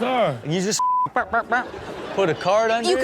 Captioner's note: vocalizes